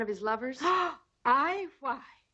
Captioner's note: Sheena gasps